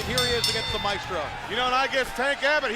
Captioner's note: bell rings